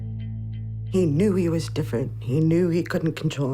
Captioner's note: voice breaking